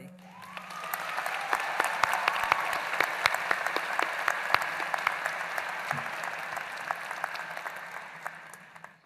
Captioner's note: applause